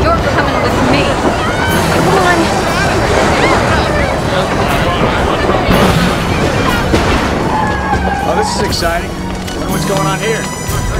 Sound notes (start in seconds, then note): 3.1 people screaming